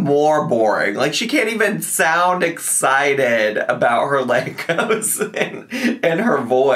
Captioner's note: chuckles